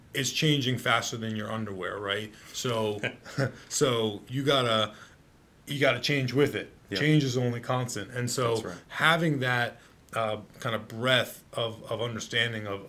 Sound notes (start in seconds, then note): 2.8 chuckles